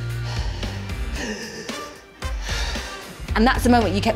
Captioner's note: breathing